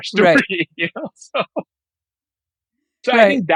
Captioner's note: laughing